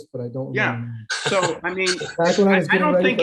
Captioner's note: laughs